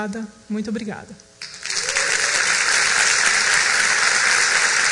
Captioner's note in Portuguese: applause